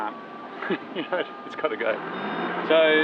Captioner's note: chuckling